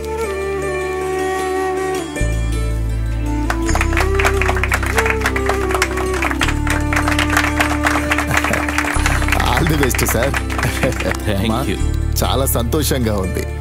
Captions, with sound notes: (Clapping) All the best sir, Happy madam